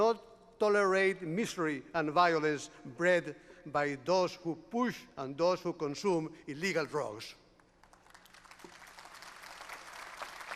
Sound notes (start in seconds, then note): 7.6 applause